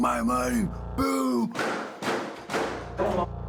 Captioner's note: banging